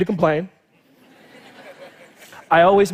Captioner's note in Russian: Смех